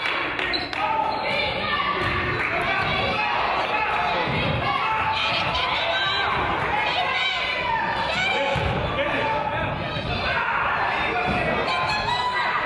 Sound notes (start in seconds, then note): 2.6 claps; 8.8 crowd yells